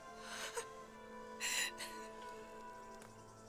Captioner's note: crying